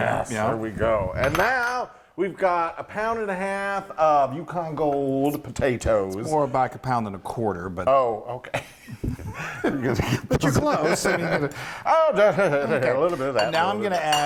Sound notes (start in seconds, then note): 9.1 laugh